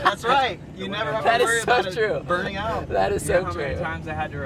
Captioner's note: laughs